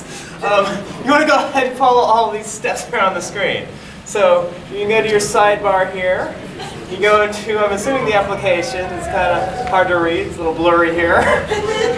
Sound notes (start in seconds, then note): 0.1 laughing; 11.0 laughs